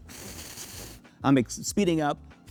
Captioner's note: blender whirring